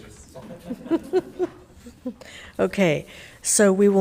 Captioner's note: laughing